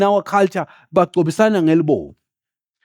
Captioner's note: speaking in foreign language